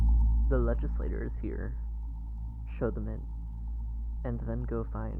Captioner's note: slightly muffled, through a door